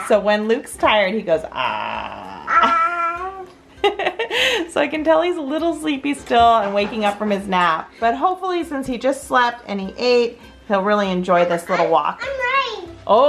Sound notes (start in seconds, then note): 1.6 laughs; 1.6 grizzling